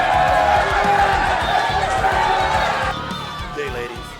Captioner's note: crowd cheering and booing in excitement